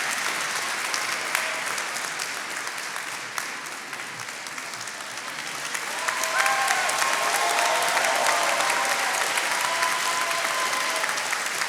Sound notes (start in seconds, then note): 6.4 attendees cheering and applauding